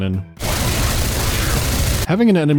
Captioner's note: brrrrrrt